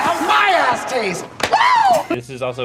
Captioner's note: hand slaps